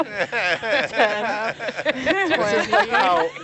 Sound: all laughing

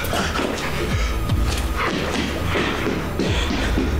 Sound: Derek panting

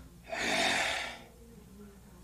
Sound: growls

